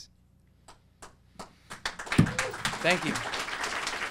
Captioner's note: audience applauding